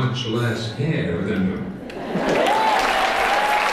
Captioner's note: computer voice; applause